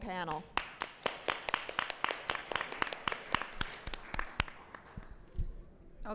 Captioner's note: applause